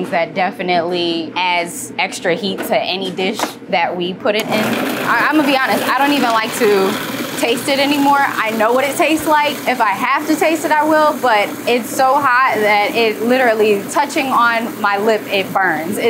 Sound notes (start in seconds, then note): 5.2 blender whirring